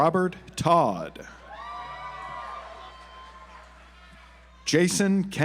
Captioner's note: audience applauds